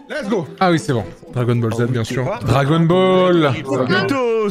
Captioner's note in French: ironique